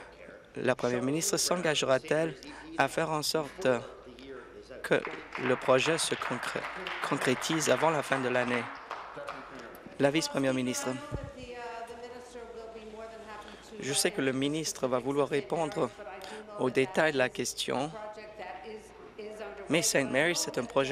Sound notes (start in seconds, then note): 10.1 applause